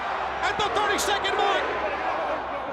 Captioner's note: crowd cheering